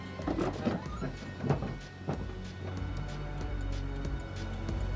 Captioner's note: car door creaking